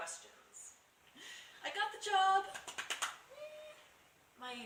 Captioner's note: claps enthusiastically